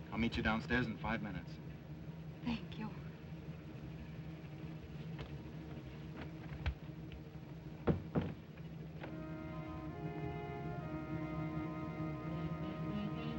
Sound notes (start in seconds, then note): 7.8 door closes; 9.1 ominous music